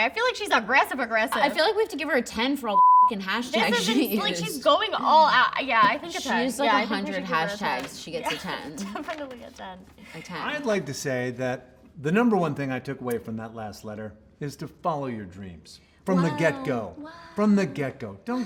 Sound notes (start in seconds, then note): 2.7 beep